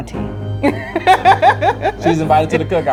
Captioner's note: laughing